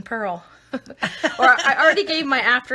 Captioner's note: laughing